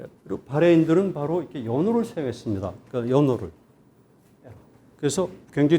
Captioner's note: speaking in Korean